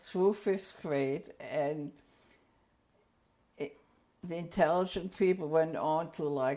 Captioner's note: pauses for 3 seconds